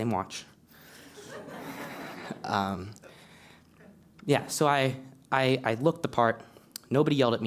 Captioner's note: laugh